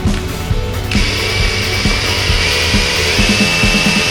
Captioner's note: drill running